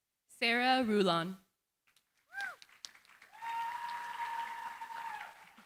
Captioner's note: applause